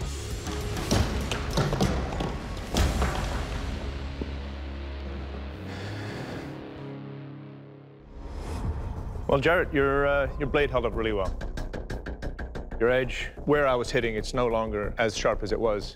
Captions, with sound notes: [exhales] Well, Jarrett, your, uh, your blade held up really well. Your edge, where I was hitting, it's no longer as sharp as it was.